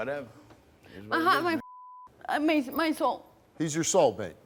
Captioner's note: beep